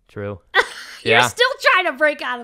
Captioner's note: laughter